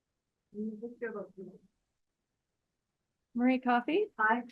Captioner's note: speaking faintly